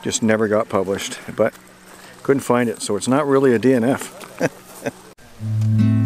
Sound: chuckles

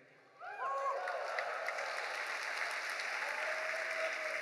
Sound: audience cheering

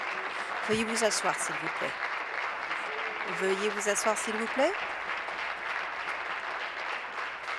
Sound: applause

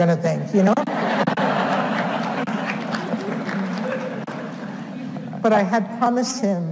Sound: audience laughs; audience applauds

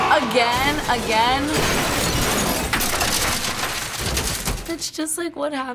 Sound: objects crashing

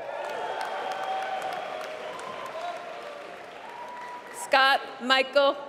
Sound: applause

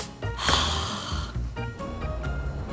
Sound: sighs

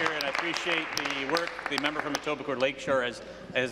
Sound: applause

